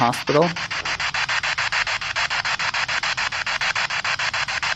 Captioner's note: spirit box sound